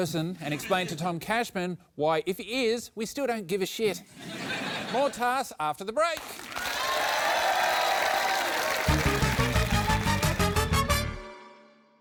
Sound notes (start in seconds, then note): 4.1 laughter; 6.2 cheering, applause